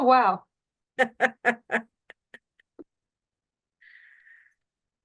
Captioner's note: chuckles